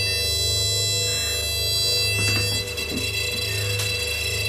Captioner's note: loud beeping